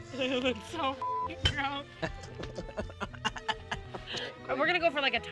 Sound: beep

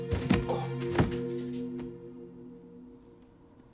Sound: <i> grunts</i>

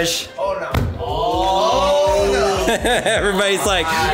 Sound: laughs

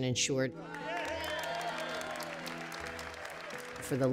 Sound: cheering

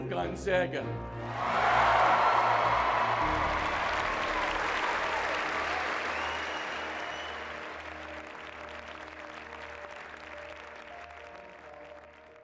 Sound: applause

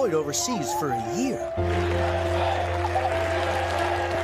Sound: cheers

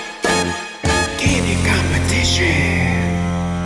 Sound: upbeat music; whispering

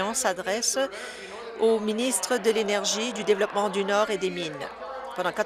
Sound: applause

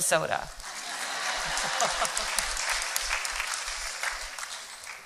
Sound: applause

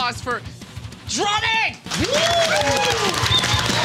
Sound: applause

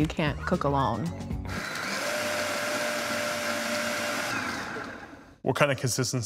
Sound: food processor whirring

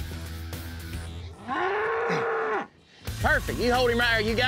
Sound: bull mooing

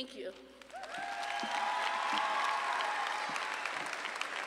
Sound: audience applauding

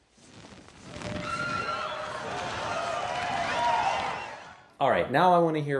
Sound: crowd cheering

